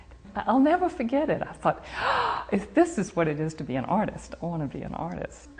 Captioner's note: gasping